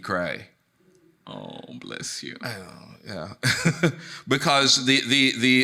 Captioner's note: chuckles